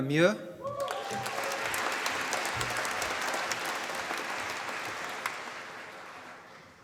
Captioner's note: applause